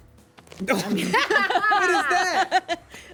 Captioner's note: everyone laughs